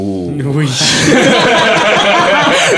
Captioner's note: laughing